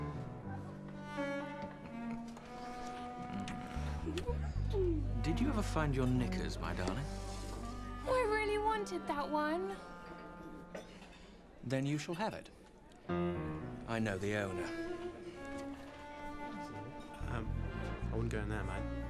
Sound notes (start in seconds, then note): 0.3 playful music; 4.0 woman giggles